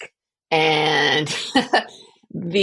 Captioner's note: laugh